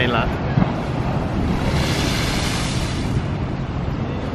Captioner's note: waves splashing